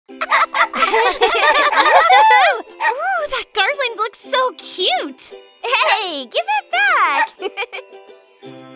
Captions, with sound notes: (dogs barking) - Ooh, that garland looks so cute! Hey, give it back! (chuckles)